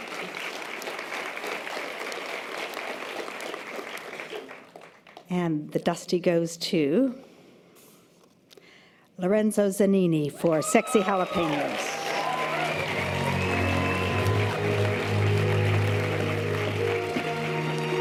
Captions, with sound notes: (audience applause) - And the Dusty goes to Lorenzo Zanini for Sexy Jalapenos. (audience applause and cheers) (string orchestral music)